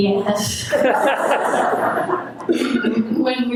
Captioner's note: audience laughing